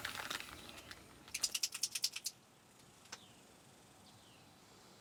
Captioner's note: makeup clicking